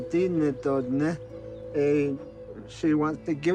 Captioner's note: speaks navajo